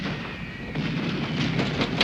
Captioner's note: speaking german